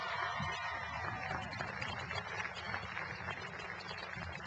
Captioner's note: cheering and applause